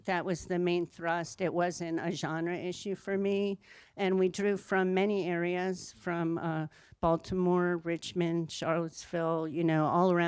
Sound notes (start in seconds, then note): none